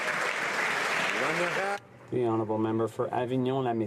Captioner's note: some Applause